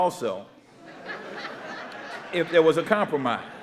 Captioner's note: audience laughing